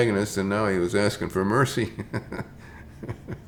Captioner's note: chuckles